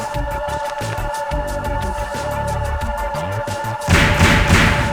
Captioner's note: muted reading